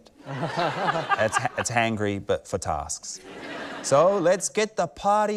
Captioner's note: laughter; laughter